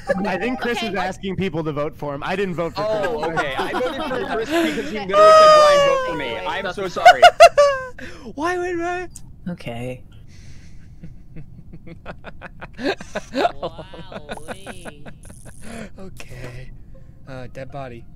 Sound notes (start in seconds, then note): 2.6 laughter; 4.4 sighs; 6.8 laughter; 10.6 laughter; 13.4 laughing